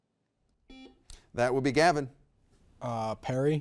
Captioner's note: buzzer beeps